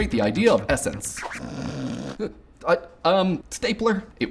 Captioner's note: snoring